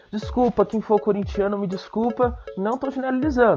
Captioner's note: none